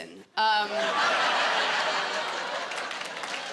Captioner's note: laughter, applause